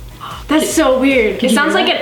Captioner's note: gasps